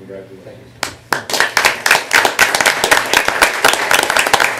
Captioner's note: applause